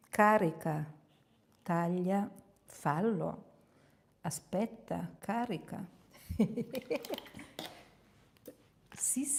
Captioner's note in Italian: risate